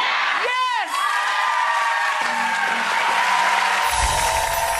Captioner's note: applause